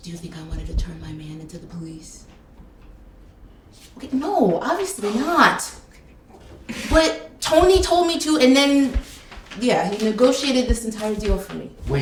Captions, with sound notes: Do you think I wanted to turn my man into the police? Okay, no, obviously not. (Dell laughing) But Tony told me to, and then, yeah, he negotiated this entire deal for me.